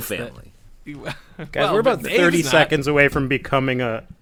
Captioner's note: laugh scoff